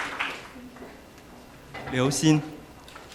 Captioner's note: applause